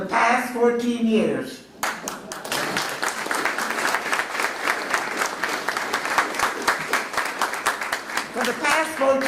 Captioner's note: applause